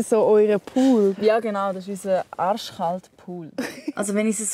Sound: laughs

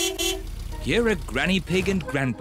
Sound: horn beeps

